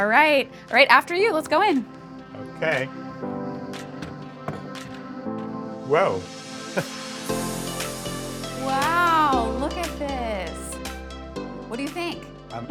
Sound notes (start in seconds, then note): 6.7 chuckles